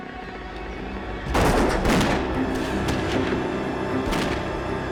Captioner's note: dramatic music; gunfire